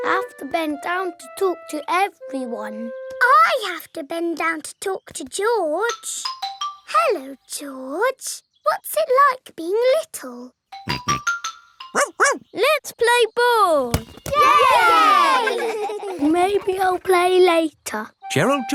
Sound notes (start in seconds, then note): 10.7 snorts; 11.9 barks; 14.3 all cheering and laughing